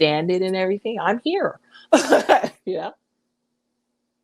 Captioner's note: chuckles